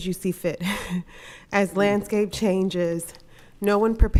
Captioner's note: chuckles